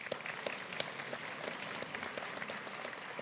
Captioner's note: applause